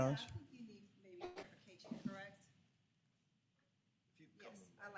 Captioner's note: speaking in background